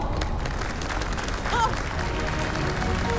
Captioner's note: applauses